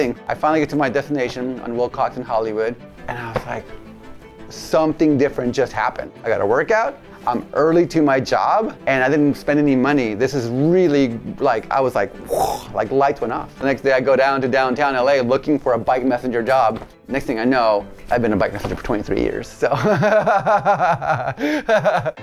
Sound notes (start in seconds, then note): 12.2 blows; 19.7 laughs